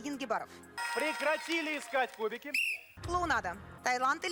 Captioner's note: whistle